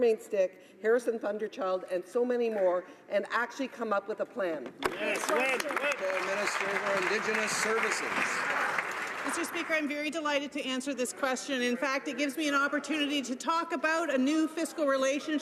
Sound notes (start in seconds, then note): 9.9 some Applause